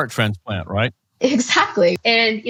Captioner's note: laughs